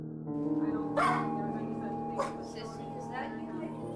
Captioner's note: dog Barking